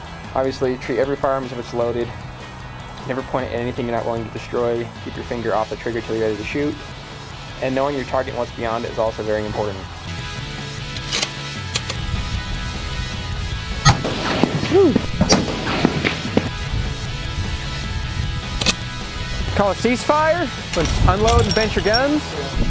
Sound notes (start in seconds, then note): 11.6 bolt clicks closed; 13.8 gun shot; 18.6 bolt clinks open